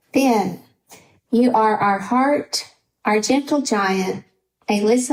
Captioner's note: none